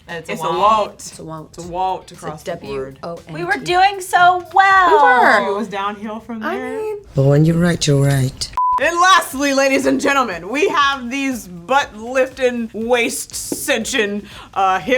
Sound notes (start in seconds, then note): 8.5 high pitched beep